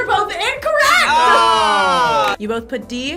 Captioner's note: buzzer